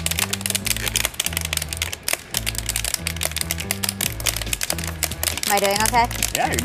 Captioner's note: popping noise